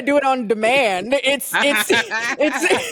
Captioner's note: laughing